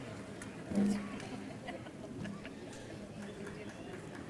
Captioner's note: crowd cheering